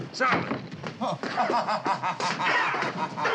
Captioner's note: laughing maniacally